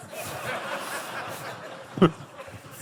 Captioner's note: laughter